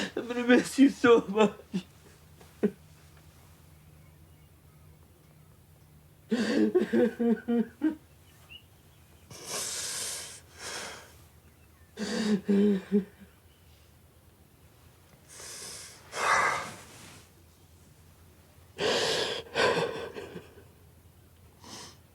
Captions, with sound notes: - I'm gonna miss you so much. (Dayne sobbing) (Lance inhales and exhales) (Dayne crying)